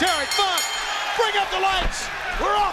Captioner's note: bell ringing